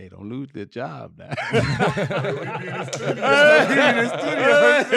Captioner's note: laughing